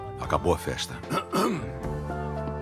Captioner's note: Sotto Voce clears throat